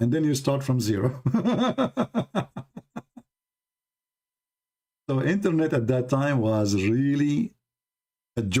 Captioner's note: Ketawa